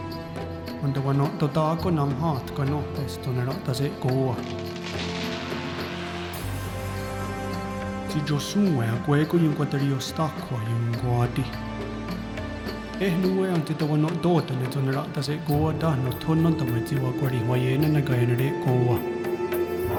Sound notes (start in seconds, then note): 1.2 speaking native language; 3.6 roots pulling loose